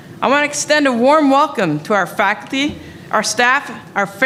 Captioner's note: none